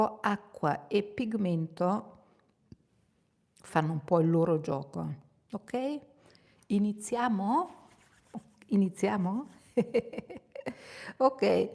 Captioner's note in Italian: risate